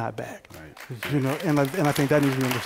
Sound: applause

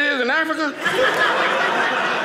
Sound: audience laughing

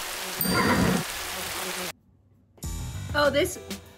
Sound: bell chimes

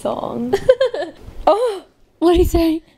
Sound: laughs

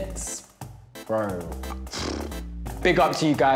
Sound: sighs

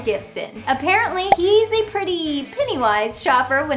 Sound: graphics pop

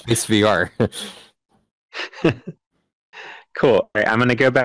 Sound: laughing

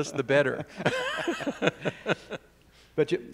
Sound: laugh

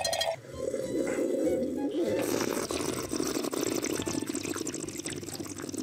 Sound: glass tickling; sipping and gurgling

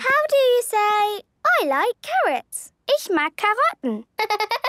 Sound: laughter

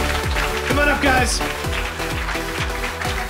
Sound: applause

